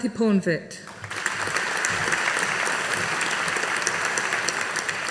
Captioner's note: audience applauding